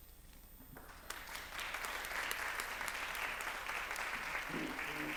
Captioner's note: applause